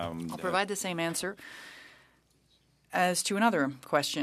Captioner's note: speaking French